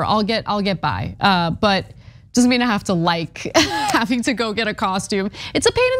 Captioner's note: laugh